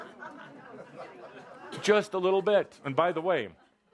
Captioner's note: laughter